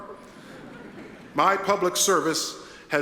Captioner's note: attendees chuckle